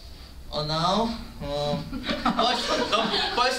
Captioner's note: laughter